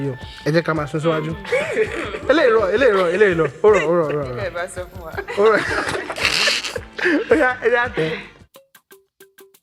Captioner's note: laughs